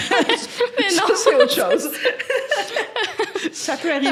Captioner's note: laughing